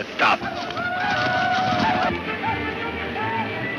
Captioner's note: speaks in foreign language; chanting